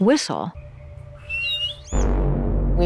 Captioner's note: whistling